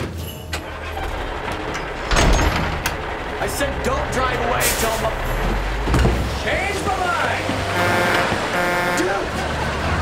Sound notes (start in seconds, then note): 0.6 engine starting; 7.3 honking